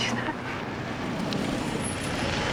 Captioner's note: vehicle approaching rapidly